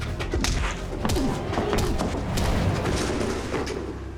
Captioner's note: punching